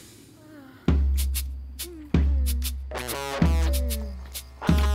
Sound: moaning

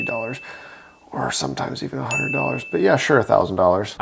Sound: inhales

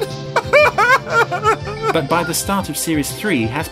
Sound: sobbing

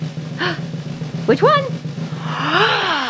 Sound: gasps

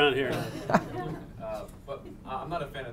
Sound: audience laughing

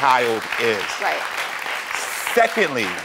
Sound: audience applauds

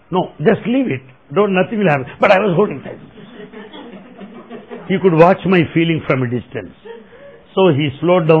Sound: laughter

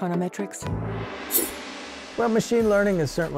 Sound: gong ringing

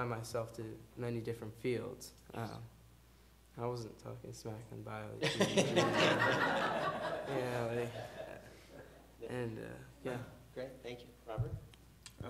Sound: laughter

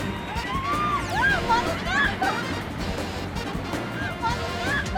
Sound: increasing acceleration

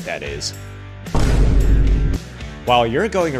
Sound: boom

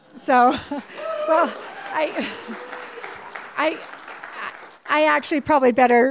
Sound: applause

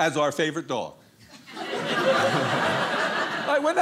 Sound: audience laughing

